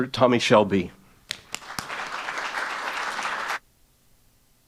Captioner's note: applause